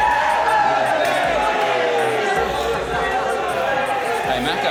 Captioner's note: cheering